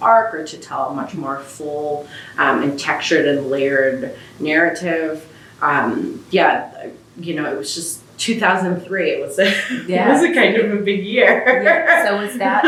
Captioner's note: laughs